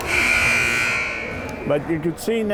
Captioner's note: timer buzzes